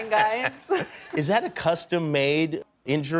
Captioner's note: laughter